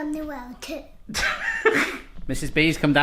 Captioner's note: laughs